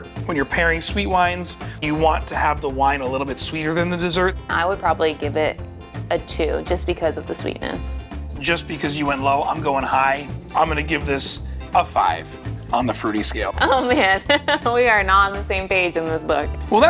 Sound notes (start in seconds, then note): 13.6 laughs